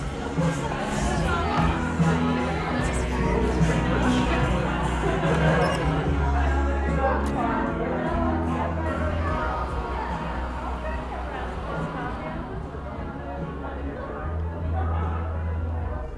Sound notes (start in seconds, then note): 1.1 another band playing; 5.3 door squeaks open